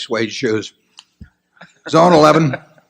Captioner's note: laughter